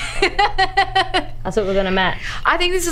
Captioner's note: laughs